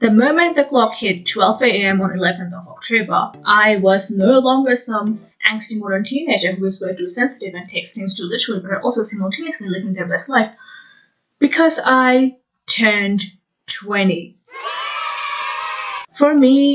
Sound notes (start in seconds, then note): 10.6 deep inhale; 14.5 yay sound effect